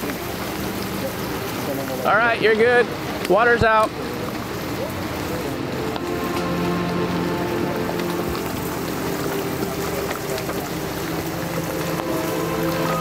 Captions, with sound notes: (water whooshing) All right, you're good. Water's out. (sobering music)